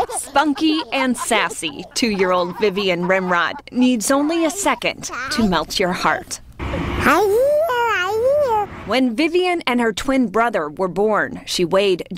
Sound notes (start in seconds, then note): 4.5 laughter